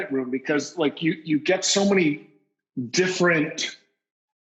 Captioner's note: none